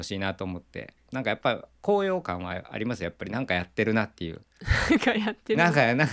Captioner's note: laughs